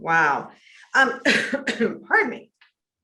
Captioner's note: coughs